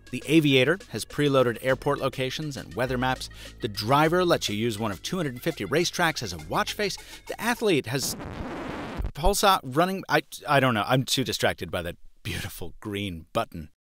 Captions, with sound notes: The Aviator has preloaded airport locations and weather maps. The Driver lets you use one of 250 racetracks as a watch face. The Athlete has (audio glitching) pulse, running, I don't know, I'm too distracted by that beautiful green button.